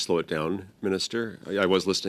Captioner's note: speaking French